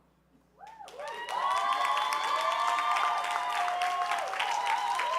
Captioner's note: audience applauding